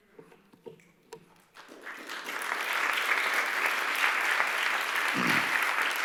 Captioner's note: applause